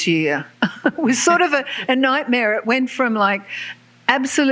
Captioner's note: laughs